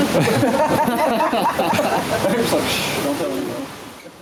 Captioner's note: laughing